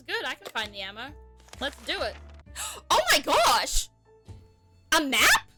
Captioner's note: gasp